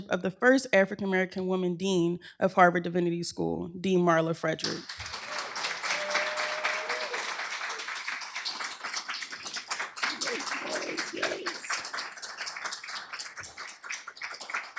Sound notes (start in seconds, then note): 5.2 applause